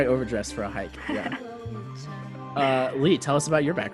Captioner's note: laughs